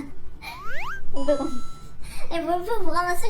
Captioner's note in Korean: 스윽